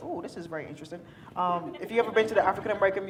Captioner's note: attendees laughing